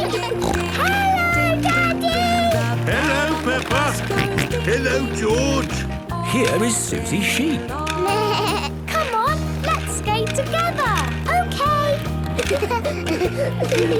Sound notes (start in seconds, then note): 0.0 snorting; 4.2 George snorting; 8.0 bleating; 12.3 laughter